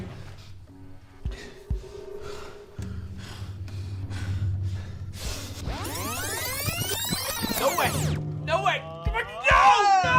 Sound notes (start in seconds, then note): 3.7 panting